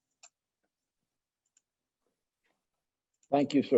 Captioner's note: mouse clicks